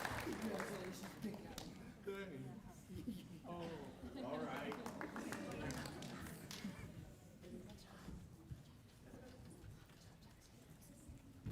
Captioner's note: applause